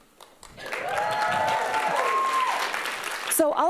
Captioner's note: applause and cheering